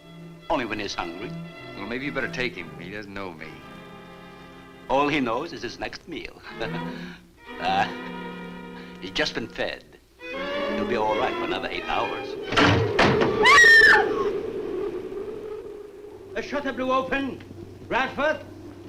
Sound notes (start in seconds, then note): 6.5 chuckles; 12.5 window shutter thuds; 13.3 Ann screams; 14.4 wind howls